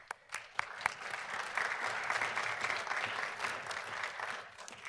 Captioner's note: audience applauding